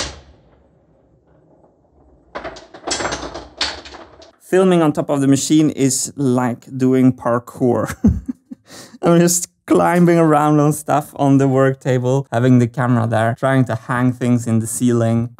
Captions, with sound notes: Filming on top of the machine is like doing parkour. [laughs] I'm just climbing around on stuff on the work table, having the camera there, trying to hang things in the ceiling...